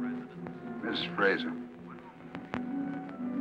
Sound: on phone

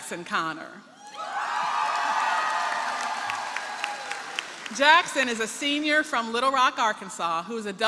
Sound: applause

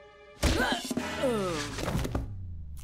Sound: grunts, groans

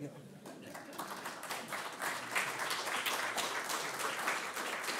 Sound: applause

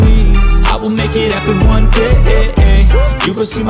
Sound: woo

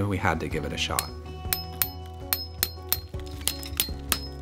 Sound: hammer clinking

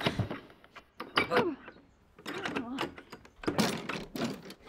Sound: door handle scrabbling

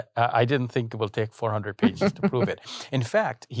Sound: interviewer laughs

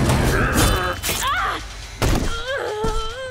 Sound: grunting; groaning

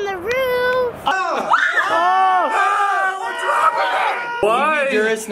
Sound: men yelling

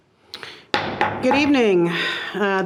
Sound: gavel bangs

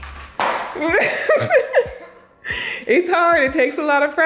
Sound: laughs

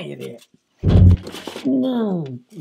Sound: heavy thump

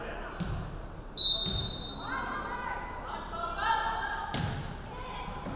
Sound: referee whistling

